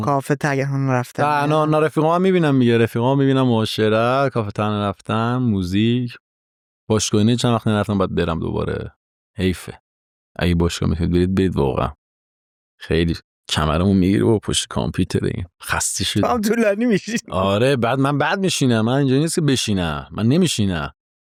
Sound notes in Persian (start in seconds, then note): 16.3 خنده